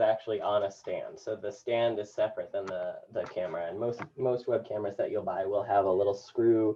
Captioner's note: none